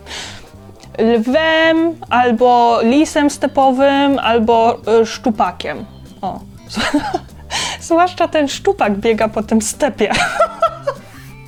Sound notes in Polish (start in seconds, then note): 6.7 śmiech; 10.1 śmiech